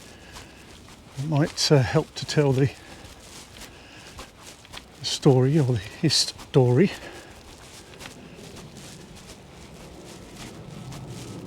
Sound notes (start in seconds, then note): 2.9 nature sounds